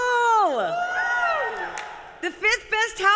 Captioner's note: applause